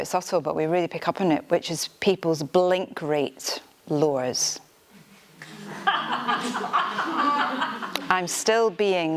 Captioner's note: audience laughter